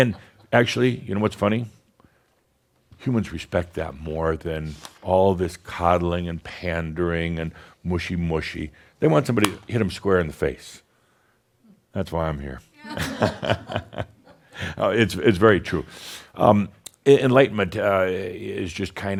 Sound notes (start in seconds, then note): 10.6 smack!; 15.6 chuckles